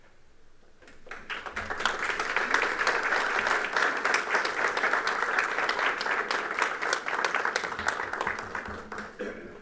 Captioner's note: applause